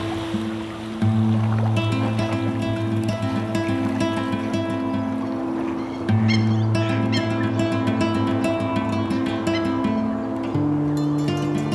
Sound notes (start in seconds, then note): 0.3 calm guitar music; 3.4 paddling; 5.8 birds